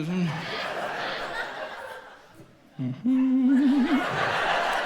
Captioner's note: audience laughs